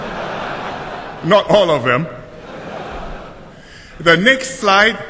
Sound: laughter

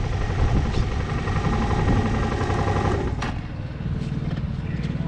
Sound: motorcycle engine turned off

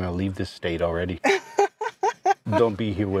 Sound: laughs

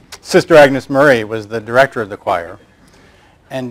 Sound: none

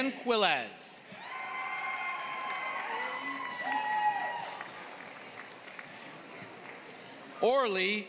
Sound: applause

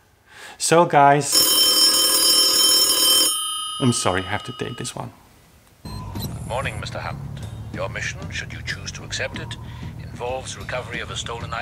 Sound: telephone rings

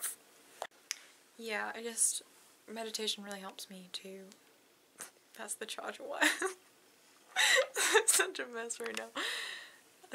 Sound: laughs

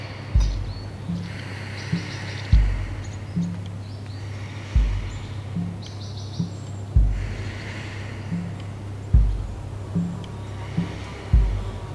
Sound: sounds of inhale and exhale

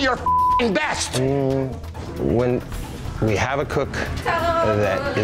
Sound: beeps; groans in shame

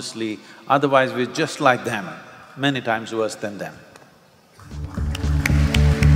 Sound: applause

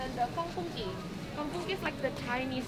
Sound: speaking in foreign language

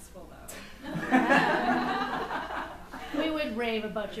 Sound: laughs

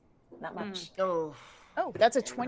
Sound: Fairuza sighs

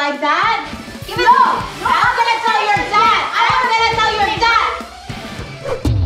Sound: arguing

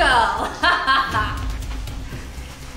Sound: laughter

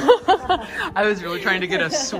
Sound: group laughing

